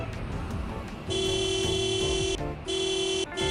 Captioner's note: horn honking